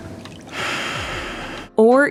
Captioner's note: Wolfgang sighs